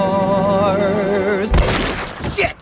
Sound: gun shot

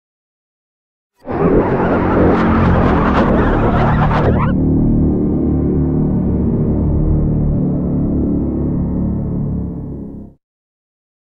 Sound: sound of morph

